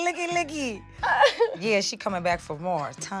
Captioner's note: laughing